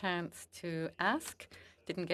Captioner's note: speaking French